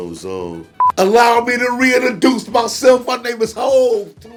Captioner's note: beep